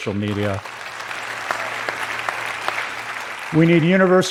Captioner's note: applause